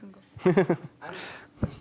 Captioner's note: laughing